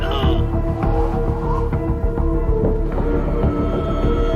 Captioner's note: wind howling